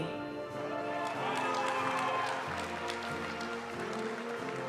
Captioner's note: audience cheering and applauding; graduation music